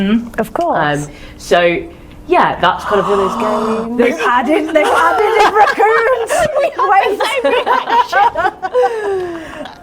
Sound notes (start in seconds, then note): 2.8 group gasp; 6.4 laughing